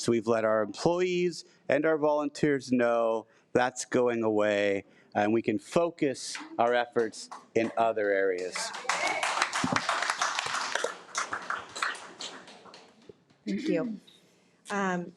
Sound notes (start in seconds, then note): 7.6 audience cheering; 8.8 audience applauding